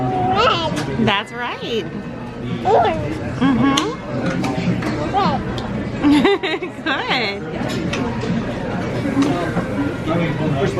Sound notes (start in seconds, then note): 6.4 laughs